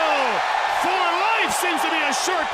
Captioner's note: crowd cheering